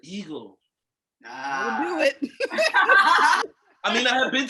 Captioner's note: laughing